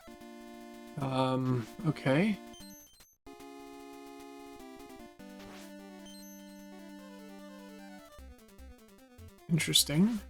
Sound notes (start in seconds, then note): none